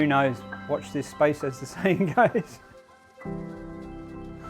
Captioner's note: laughs